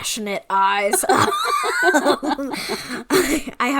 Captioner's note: laughing